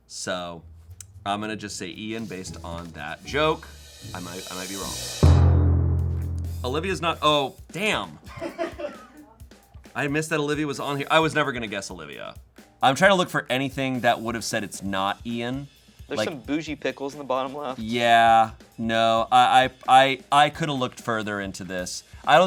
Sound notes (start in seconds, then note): 5.2 thud booms